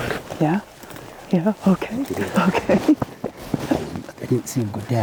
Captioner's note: laughs